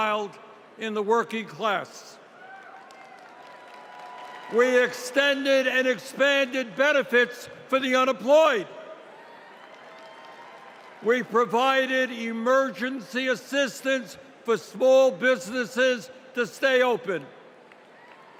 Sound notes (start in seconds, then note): 9.1 applause; 14.1 applause